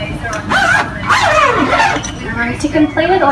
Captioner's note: zipping